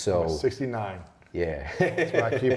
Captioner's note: laughs